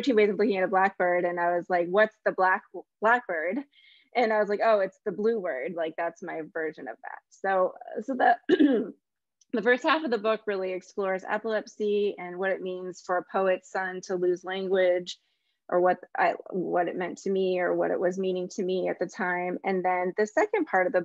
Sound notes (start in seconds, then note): 8.5 clears throat